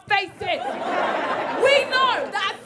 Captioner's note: audience laughing